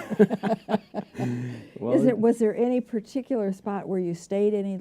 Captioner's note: laughter